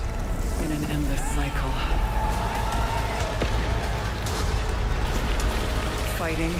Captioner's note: cheers and applause